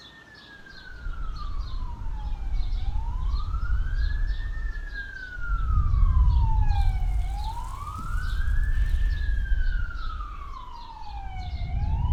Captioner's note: sirens and Explosions